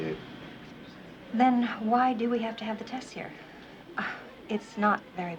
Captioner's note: exhales